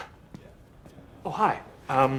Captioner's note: footsteps approach